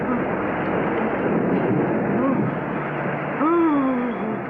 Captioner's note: moaning